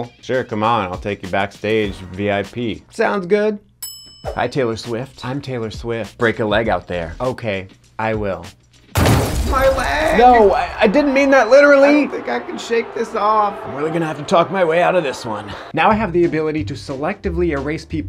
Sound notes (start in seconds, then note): 8.9 glass shattering